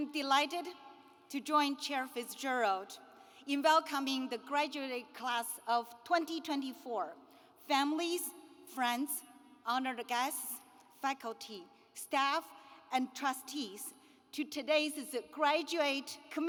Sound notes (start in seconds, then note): none